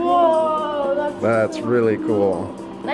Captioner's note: children in Unison